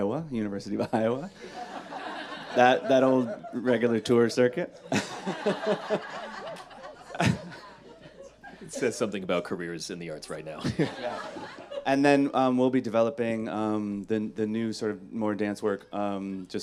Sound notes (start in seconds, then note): 5.0 all laughing